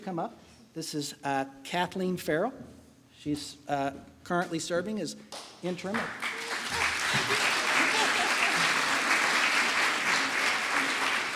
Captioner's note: applause